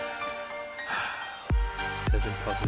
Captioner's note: covid breath release